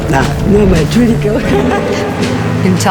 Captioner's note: laughter